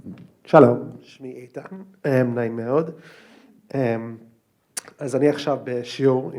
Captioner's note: student speaking in foreign language